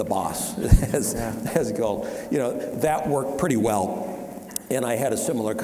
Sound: chuckling

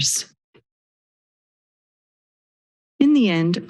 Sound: silence

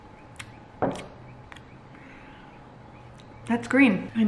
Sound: smacks lips

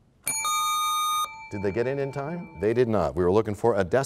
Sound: bell rings, time expires

